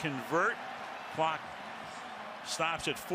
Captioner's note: pa announcement